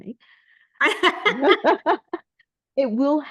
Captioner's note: is laughing